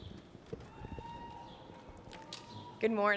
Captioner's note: cheering